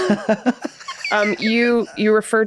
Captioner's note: Glenn and Rob laugh